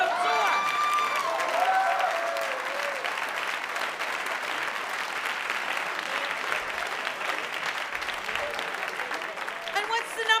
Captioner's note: cheering & applause